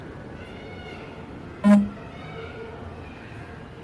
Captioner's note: mobile vibrates